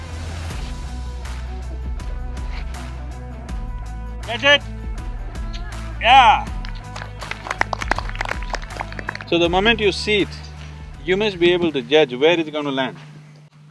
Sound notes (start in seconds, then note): 6.2 applause